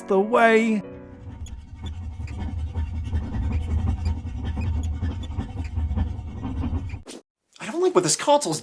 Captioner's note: hamster wheel squeaking